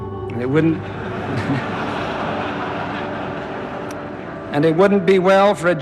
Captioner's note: crowd laughter